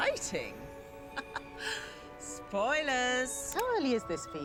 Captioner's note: laughs